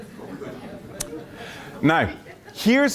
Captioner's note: laughter